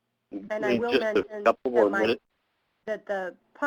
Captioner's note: voiceover